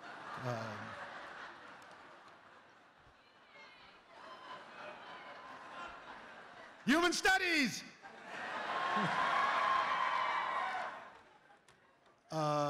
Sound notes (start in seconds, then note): 0.0 laughter; 7.9 laughter and cheering